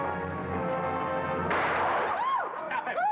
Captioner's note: woman cries out; gunshot